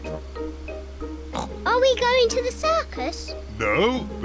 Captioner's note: oinks